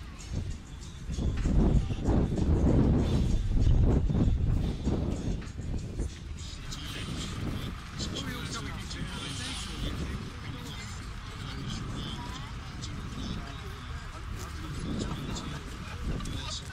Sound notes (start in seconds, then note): 6.3 wind blowing